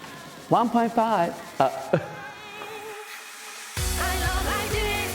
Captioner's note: giggling